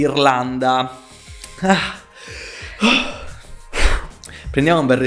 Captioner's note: inhale, exhale